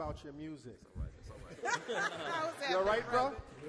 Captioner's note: all laugh